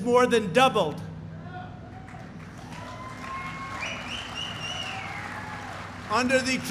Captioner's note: applause